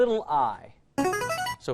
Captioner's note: chiming